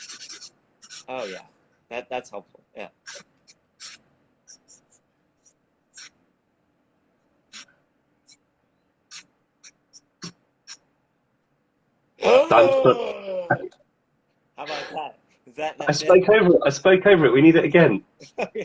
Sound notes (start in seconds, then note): 12.3 gasps